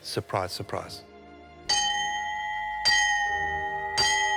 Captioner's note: bell chimes